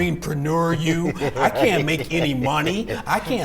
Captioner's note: laughs